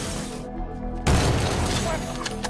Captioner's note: glass shatters; gunshot fires; cocks guns